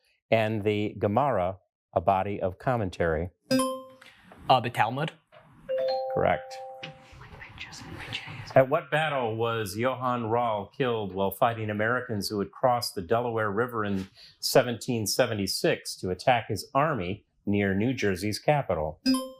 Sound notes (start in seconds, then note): 3.5 buzzer rings; 5.7 bell dings